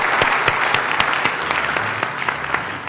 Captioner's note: applause